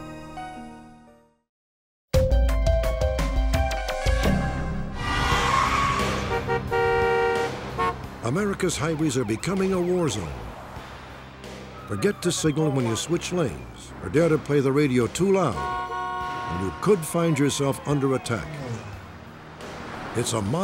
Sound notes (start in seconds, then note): 1.8 theme music; 4.8 squealing tires; 5.8 car horn honking; 15.2 car horn honking